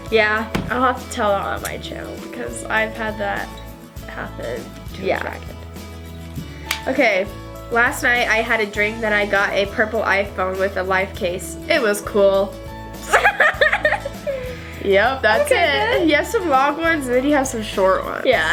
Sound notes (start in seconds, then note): 13.1 laughs